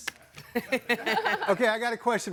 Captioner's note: guests laughing